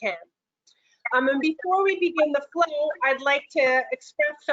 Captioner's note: audio distortion